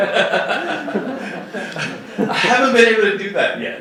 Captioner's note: laughing